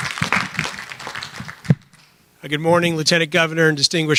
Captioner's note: applause